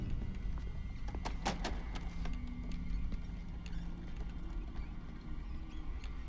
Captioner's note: wheels squeaking; cart clatters